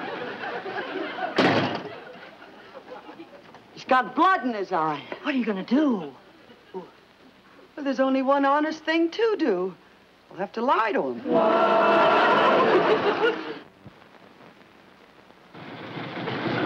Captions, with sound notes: (door slams) He's got blood in his eye. - What are you gonna do? - Well there's only one honest thing to do, I'll have to lie to him. (audience laughs)